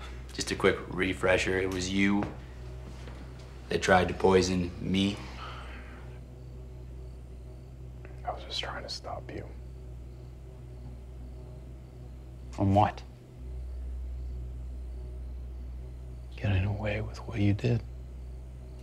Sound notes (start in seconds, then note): 5.4 crickets chirping; 5.4 tense music; 9.8 crickets chirping; 9.8 tense music; 13.5 crickets chirping; 13.5 tense music; 18.6 crickets chirping; 18.6 tense music